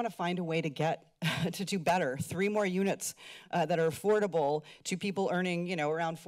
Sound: chuckles

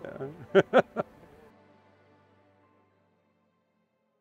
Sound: laughing

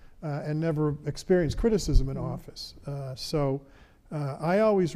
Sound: none

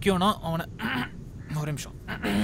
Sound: throat tickling

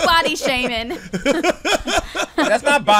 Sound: laughs

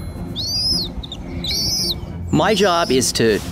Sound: birds tweeting; voiceover

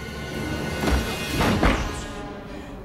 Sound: door thudding

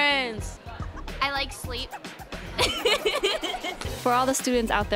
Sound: laughing

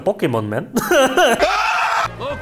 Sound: laugh more

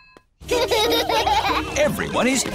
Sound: children laughing

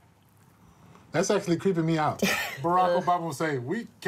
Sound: laughs; imitates barack obama

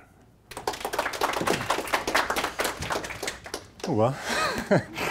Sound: audience clapping

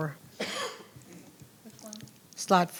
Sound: coughing

